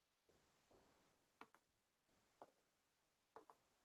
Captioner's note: mouse clicking